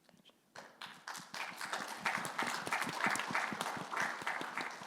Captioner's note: audience clapping